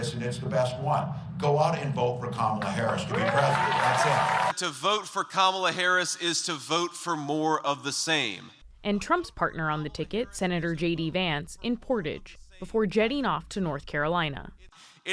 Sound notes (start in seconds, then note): 4.5 cheering